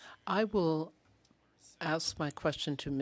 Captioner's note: speaking French